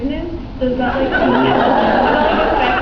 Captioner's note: laughs